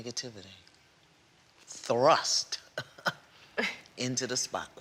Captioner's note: chuckles